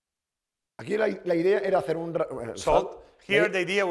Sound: speaking spanish

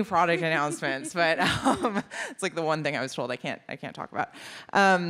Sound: laughs

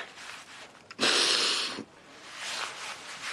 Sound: Aaron sniffles

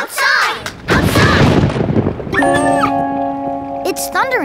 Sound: thundering, whimpering

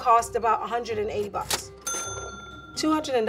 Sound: cash register dinging

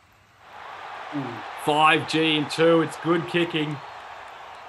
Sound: crowd roars

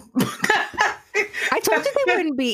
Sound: laughing

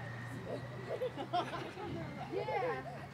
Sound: giggling

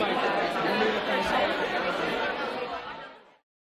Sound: crowd noise

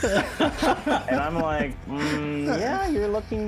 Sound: laughing

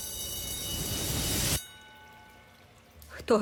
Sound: tense music plays; ringing stops

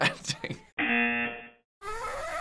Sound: buzzer

